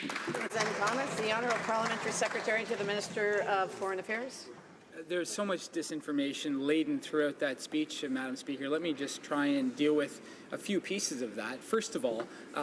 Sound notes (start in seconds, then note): 3.9 applause